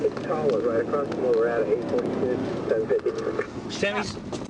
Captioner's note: dispatch radio